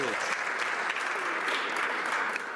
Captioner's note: some Applause